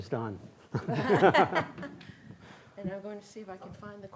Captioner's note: both laughing